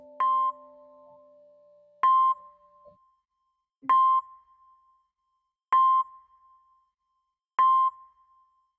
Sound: heart monitor beeping

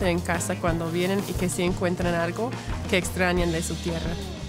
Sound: spanish

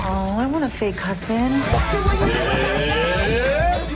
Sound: mocking noises

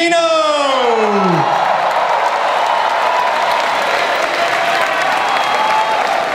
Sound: audience cheering

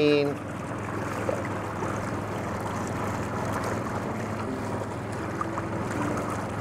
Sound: boat engine revving; water splashing

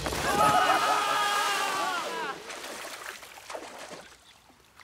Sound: cheering crowd; screams

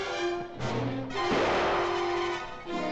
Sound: dramatic music; gunshot; dramatic music

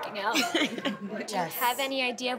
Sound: laughs

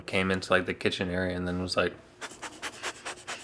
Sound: sniffing nose

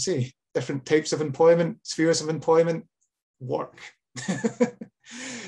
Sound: laughs

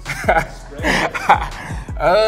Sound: laughing

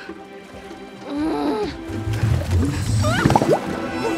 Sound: moaning

